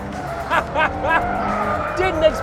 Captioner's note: laughs